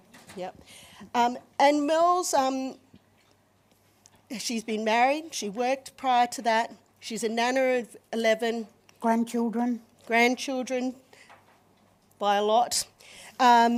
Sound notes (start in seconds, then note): none